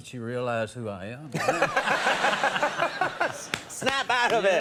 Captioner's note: laughing